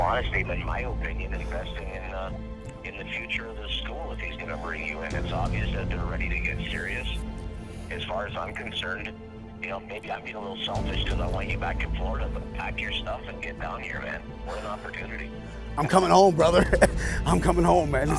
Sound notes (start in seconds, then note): 14.4 breathes deeply; 15.8 chuckles